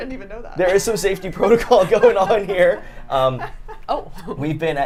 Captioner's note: laughs